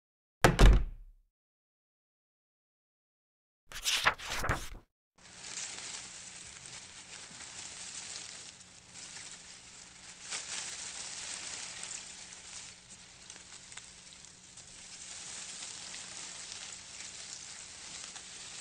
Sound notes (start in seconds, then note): 0.4 door closing; 5.2 leaves rustling